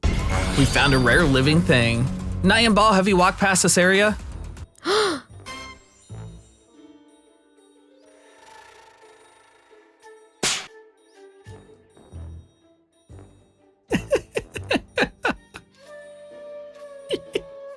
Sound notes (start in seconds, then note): 4.8 gasps; 13.9 chuckling